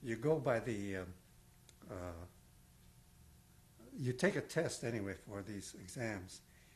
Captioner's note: pauses for 3 seconds